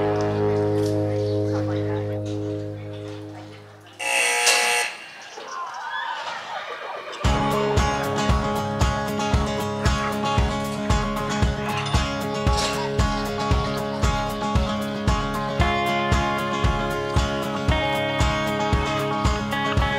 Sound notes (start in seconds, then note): 4.0 buzzer; 6.8 energetic western music begins